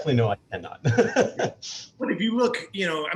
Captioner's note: laughs